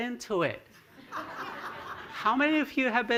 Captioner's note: laughter